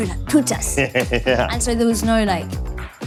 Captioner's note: chuckles